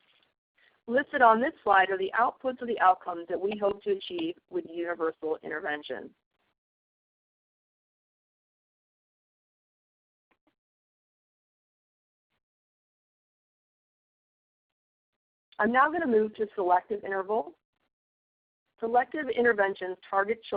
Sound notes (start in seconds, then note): 6.6 silence